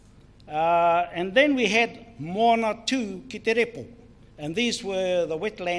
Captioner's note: speaks in foreign language